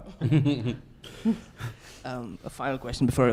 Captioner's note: chuckles